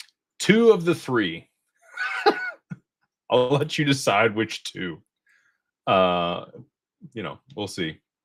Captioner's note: laughter